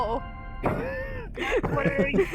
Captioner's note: laughs